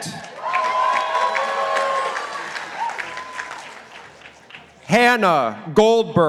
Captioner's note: participants applauding